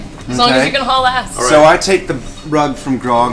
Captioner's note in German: lacht